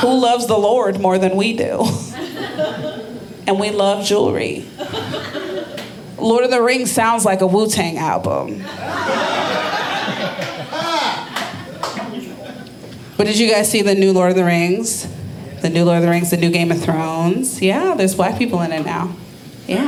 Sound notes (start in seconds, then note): 8.6 audience laughing